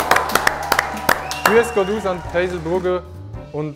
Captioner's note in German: Er spricht Schweizerisch